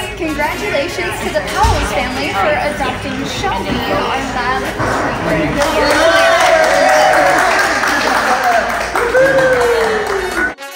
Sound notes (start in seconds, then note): 5.4 everyone cheering